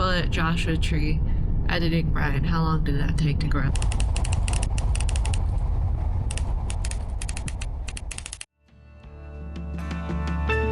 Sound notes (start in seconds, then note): 3.7 ticking